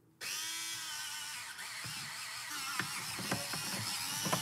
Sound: sharpener whirring

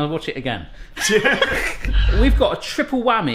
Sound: both laughing

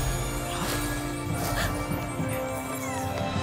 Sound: all gasping

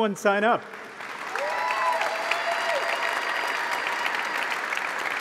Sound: applause

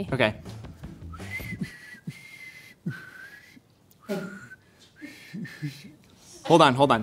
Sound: whistle

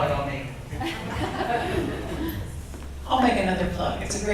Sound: audience laughs

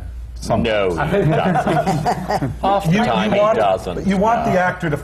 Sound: laughter

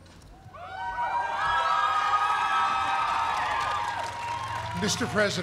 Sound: cheering

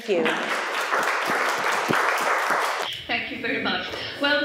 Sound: audience applauding

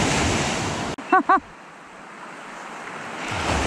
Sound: laughing

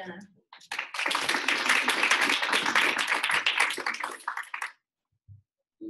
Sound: audience applauding

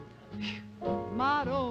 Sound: phew

